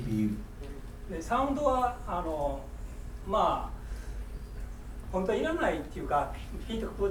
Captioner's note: speaking in foreign language